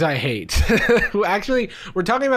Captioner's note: laughing